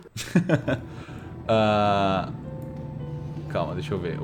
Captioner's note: laughs